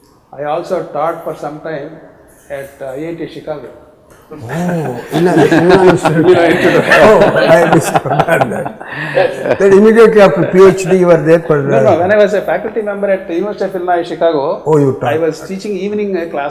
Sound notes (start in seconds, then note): 4.4 laughter